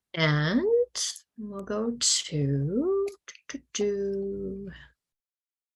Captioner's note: humming